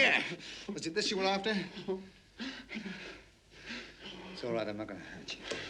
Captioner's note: Elder whimpering